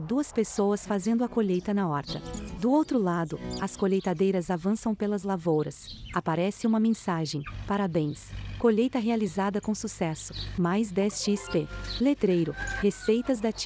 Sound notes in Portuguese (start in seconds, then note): 4.0 Pássaros; 10.7 Galo cantando